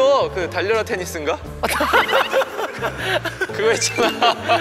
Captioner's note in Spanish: Ja ja ja ja ja